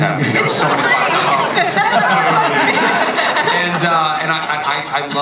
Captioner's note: audience and panelists laughing